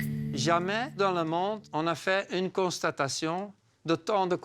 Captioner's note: French spoken audio